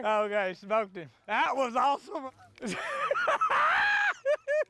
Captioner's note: laughter